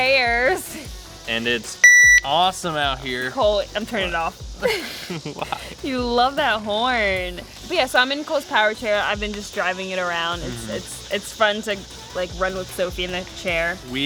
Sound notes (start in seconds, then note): 4.6 laughing